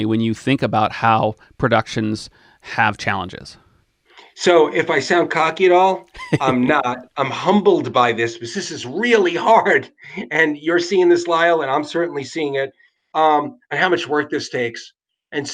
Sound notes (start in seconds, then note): 6.1 laughs; 9.8 laughs